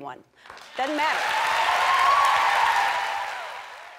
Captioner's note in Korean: 박수